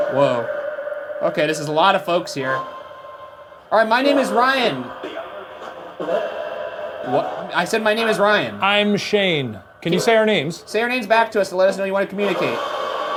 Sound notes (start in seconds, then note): 6.0 device chattering; 12.9 device hisses and thrums